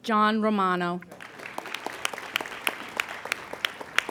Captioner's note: applauding